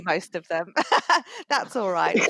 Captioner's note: laughs